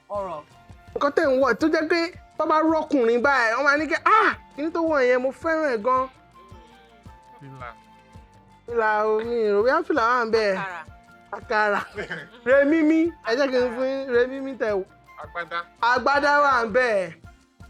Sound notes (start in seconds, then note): 11.6 laughs